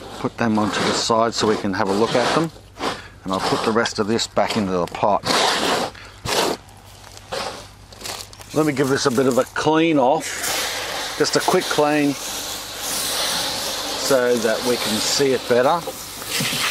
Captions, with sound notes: Put them onto the side so we can have a look at them. And I'll put the rest of this back into the pot. (soil scraping) Let me give this a bit of a clean off. (water spraying) Just a quick clean so that we can see it better.